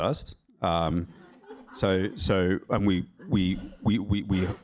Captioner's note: laughter